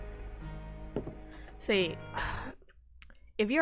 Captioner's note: sighs